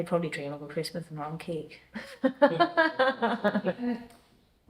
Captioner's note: laughs